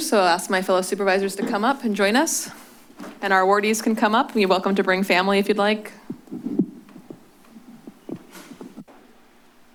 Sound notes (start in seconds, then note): 6.0 shuffling sounds; 8.8 silence